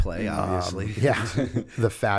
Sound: chuckle

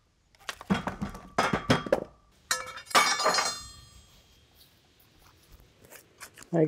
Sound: tools fall; wood clatters

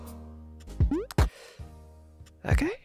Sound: inhale

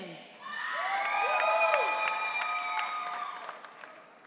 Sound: audience cheering

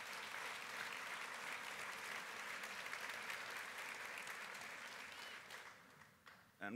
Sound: applause

